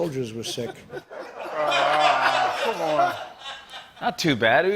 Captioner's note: laughter